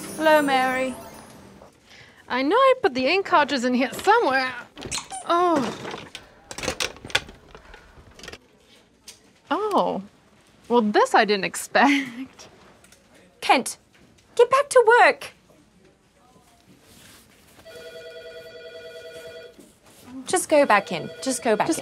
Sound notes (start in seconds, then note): 17.6 office phone ringing